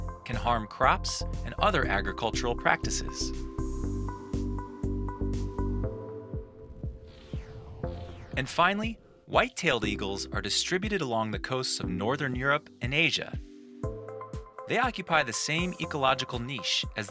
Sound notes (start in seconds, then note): 4.3 upbeat music continues; 6.6 air whooshing